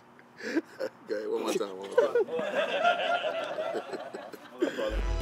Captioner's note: laughing all around